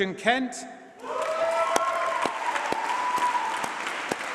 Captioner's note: applause